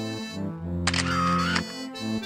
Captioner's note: camera snap FX